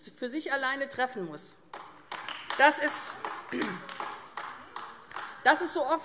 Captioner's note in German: Beifall AfD